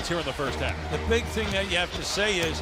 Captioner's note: cheers and applause